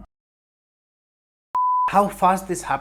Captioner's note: beep